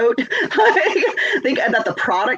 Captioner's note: laughs